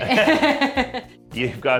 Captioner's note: laughs